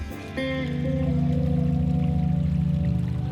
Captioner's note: water trickles